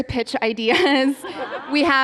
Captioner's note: laughter